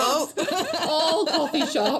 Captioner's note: chuckling